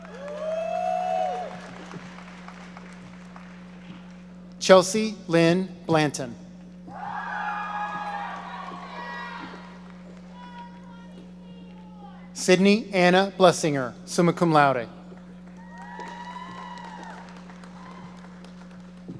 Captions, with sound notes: (audience cheering) Chelsea Lynn Blanton. (audience cheering) (audience member shouting) Sydney Anna Blessinger, summa cum laude. (audience cheering)